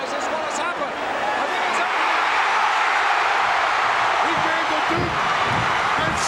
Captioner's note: audience cheering